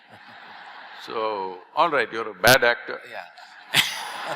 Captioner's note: laughter; laughter